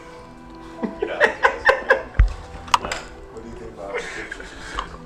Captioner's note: laughing